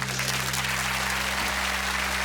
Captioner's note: applause